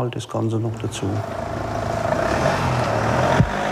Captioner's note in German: Motorbrummen